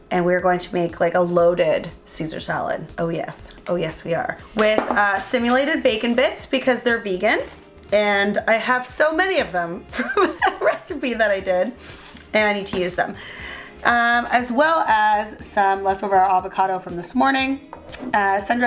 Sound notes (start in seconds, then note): 9.7 laughing